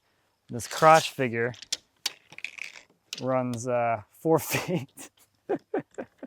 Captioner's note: laughs